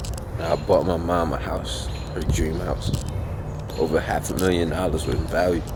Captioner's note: none